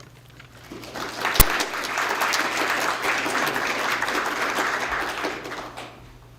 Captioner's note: applause